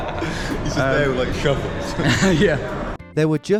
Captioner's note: laughter